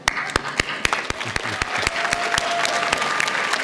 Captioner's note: clapping